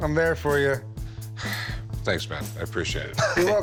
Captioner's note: sighs; laughs